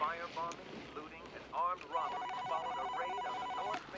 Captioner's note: telephone rings